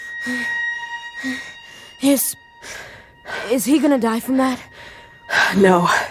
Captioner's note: breathing heavily